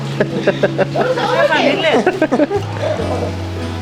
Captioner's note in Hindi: हंसी